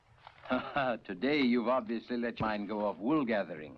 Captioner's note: chuckles